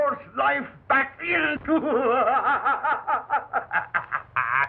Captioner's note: laughs wildly